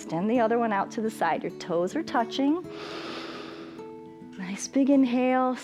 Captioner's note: inhales